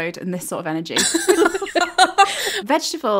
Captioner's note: laughing